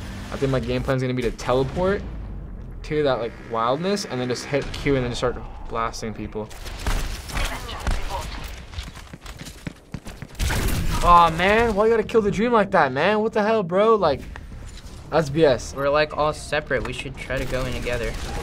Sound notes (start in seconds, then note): 6.6 gunshots exchanging